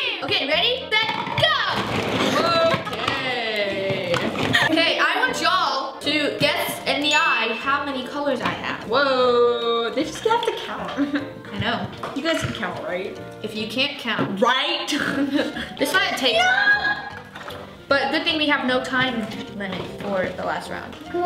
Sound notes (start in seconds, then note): 17.0 squealing